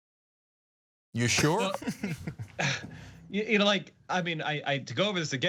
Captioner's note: laugh